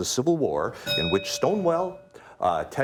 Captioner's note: bell ringing